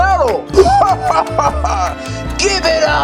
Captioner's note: laughs